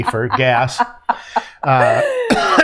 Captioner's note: coughs